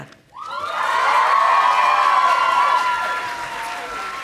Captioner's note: audience applauding